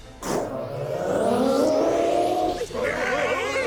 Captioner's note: waling; all whimpering